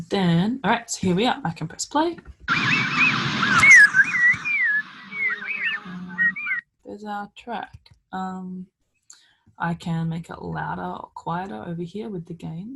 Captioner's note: bird sounds